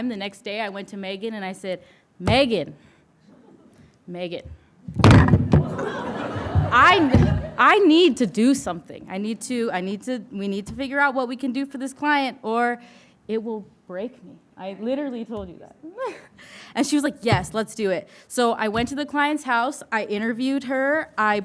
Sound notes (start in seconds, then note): 5.0 trophy clattering; 5.6 audience laughing